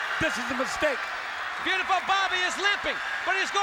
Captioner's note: crowd cheering